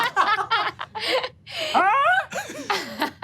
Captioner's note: all laugh